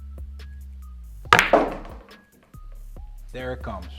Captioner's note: upbeat music continues; ball bangs